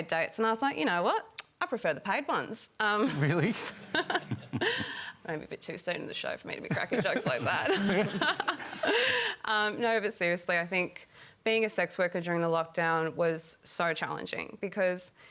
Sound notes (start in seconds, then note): 3.1 laughs; 6.7 laughter